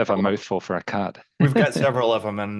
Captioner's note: laughs